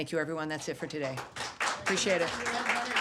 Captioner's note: applause